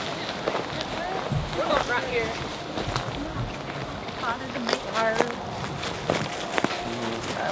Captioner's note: grass crunching drowns out conversation